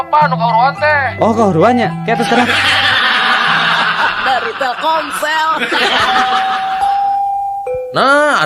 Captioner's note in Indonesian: tertawa